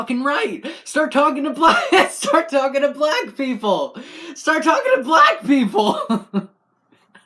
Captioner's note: laugh